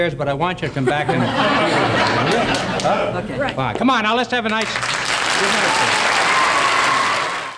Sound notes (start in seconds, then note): 4.4 audience applauds